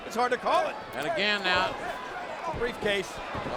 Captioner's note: none